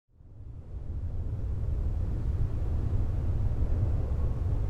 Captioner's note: wind roaring